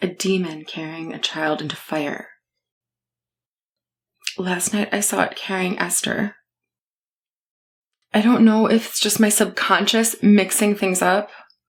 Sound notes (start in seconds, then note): none